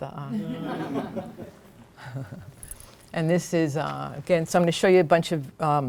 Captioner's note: laughter